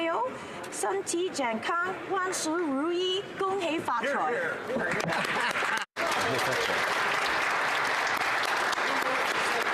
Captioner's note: speaking alternate language